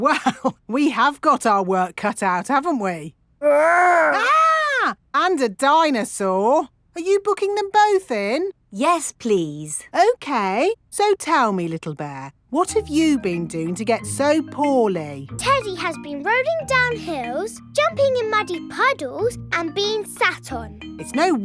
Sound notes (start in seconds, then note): 0.1 chuckling; 3.7 mock screaming